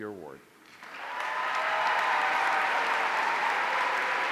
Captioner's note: audience cheering